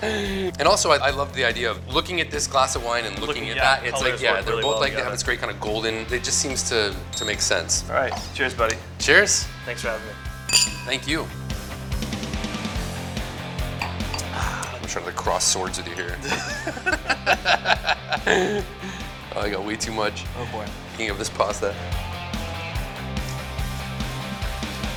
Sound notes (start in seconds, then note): 10.4 glasses clanging; 11.7 rock music; 16.0 laughter; 23.3 rock music